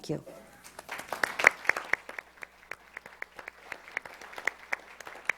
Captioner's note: audience applauds